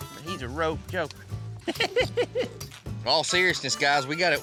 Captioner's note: laughing